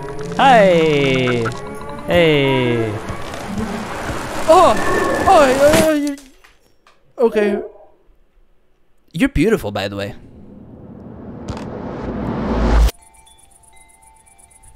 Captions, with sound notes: Hi! Hey! *more strange scared vocalisations* Okay. You're beautiful, by the way.